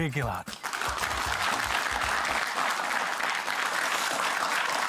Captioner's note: applause